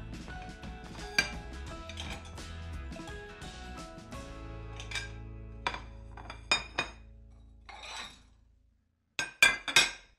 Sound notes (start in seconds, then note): 5.3 dishes clatter